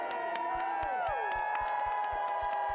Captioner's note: applause